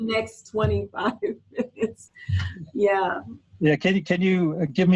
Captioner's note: chuckles